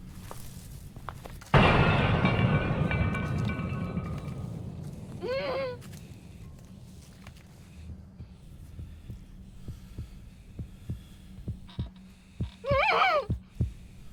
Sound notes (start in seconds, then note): 1.5 sudden impact sound; 5.1 muffled scream; 9.7 thudding heartbeat